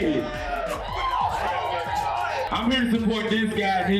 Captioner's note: cheering